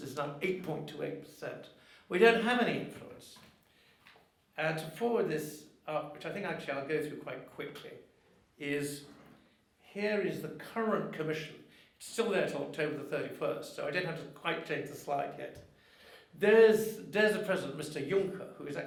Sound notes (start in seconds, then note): none